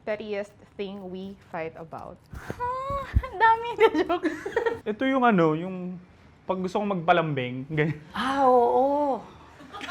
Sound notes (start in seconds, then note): 4.0 laughs